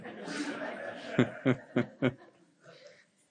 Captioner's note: laughs